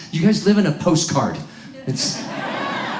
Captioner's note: audience laughs; crowd cheers